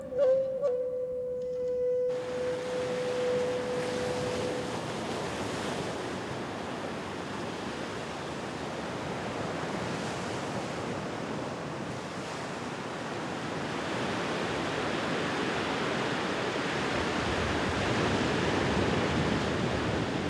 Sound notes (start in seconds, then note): 2.5 sound of waves